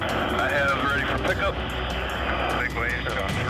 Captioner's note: man On Radio